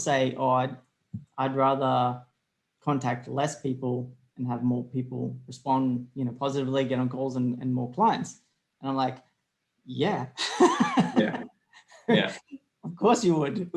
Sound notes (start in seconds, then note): 10.4 laughs